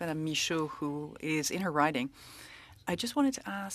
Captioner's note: speaking French